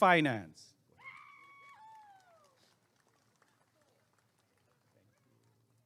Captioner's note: applause and cheering